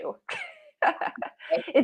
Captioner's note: laughs